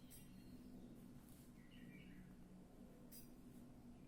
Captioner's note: bird singing